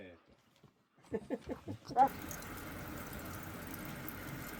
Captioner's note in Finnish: naurua